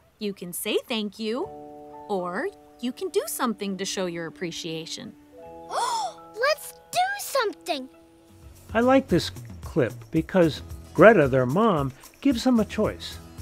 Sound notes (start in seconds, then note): 5.7 gasp